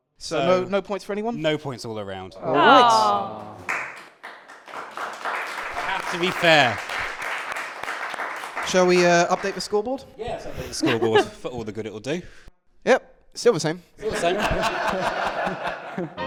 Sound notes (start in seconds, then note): 2.9 applause; 14.0 laughter